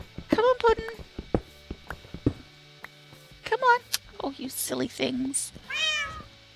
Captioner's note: cats meow